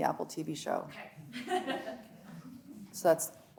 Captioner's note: laughs